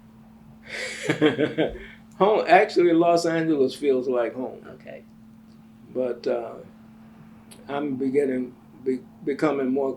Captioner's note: laughs